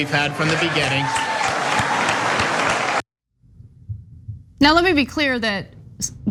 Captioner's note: applause